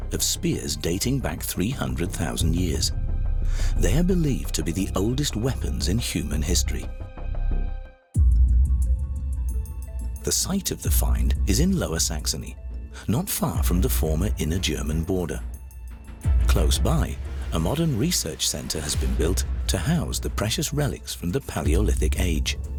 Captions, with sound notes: of spears dating back 300,000 years. They are believed to be the oldest weapons in human history. [blunt impact sound over eerie music] The site of the find is in Lower Saxony, not far from the former inner-German border. Close by, a modern research centre has been built to house the precious relics from the Palaeolithic Age.